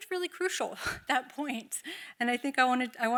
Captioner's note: chuckles